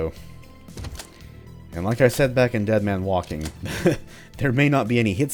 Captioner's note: chuckles